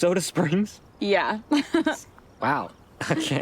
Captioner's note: laughs